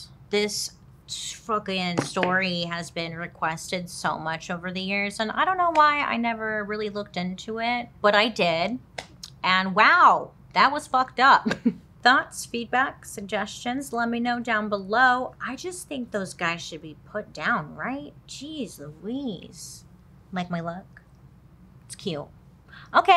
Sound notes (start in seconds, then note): 11.4 chuckles